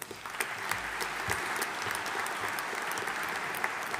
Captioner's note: audience applauding